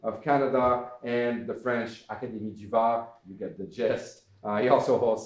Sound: foreign language

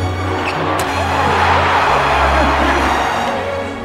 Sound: cheering

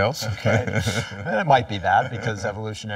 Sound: laughter

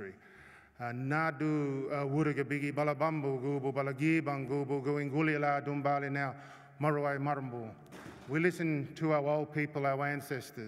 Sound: non-english speech

